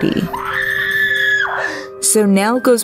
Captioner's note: Nell screaming